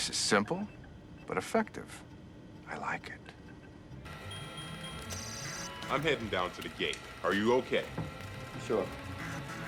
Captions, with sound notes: - This is simple but effective. I like it. (beeping) - I'm heading down to the gate, are you okay? - Sure.